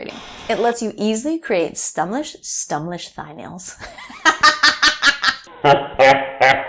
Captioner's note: laughs; deep laugh